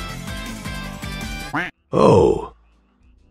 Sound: quack

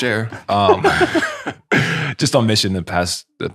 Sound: friars laughing

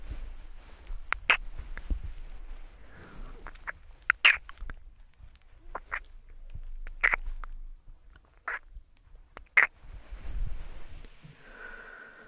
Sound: kisses and mouth sounds

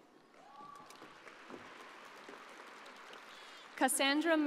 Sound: audience applauding

